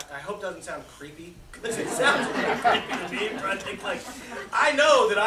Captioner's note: laughter